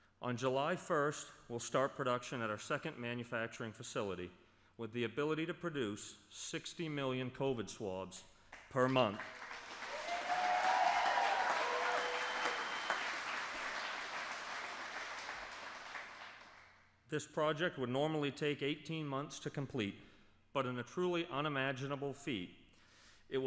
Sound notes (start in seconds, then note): 14.0 applause